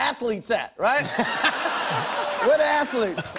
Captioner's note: laughter